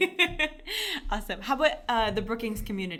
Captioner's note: laughter